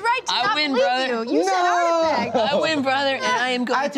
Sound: laughs

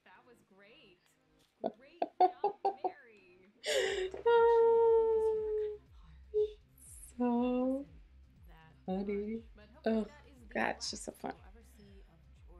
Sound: still laughing

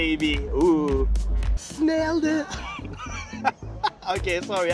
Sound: chuckles

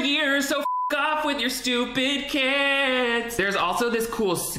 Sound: beep

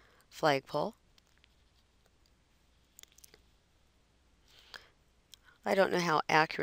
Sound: silence

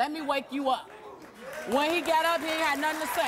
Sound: audience cheering and applause

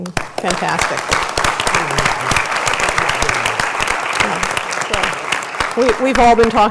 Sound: applause

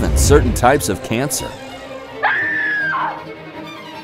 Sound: a woman screams

